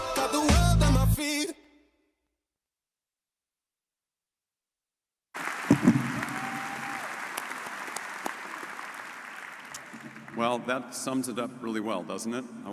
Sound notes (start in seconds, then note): 5.3 audience cheering and applauding